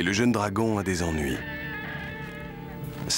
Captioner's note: groaning